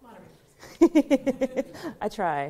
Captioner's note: laughs